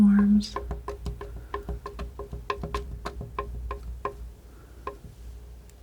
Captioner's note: tapping